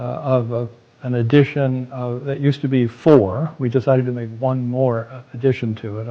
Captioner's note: none